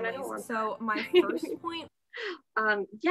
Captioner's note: laughter